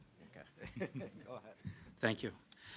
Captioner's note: laughs